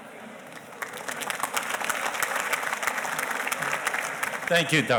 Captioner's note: audience applauding